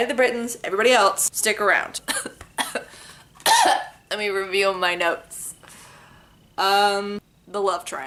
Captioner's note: coughs dramatically